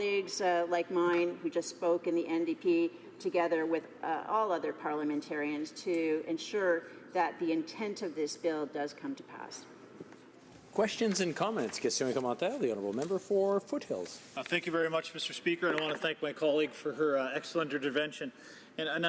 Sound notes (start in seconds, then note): 16.9 speaking French